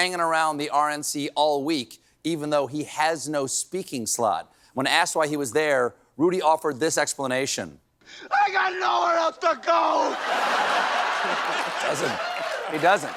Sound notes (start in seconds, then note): 10.1 laughter